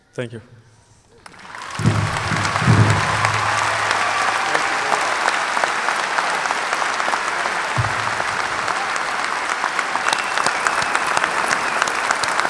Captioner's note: cheers and applauses